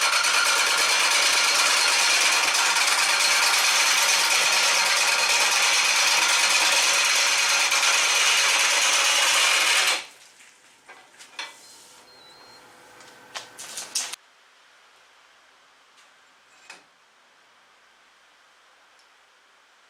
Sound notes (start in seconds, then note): 8.3 noise of woodturning lathe and woodturning